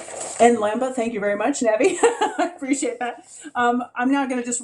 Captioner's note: laughs